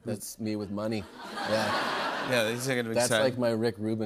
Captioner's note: laughter